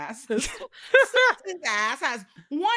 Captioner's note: laughing